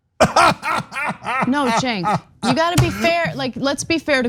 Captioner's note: laugh